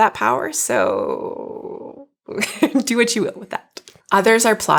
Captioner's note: laughs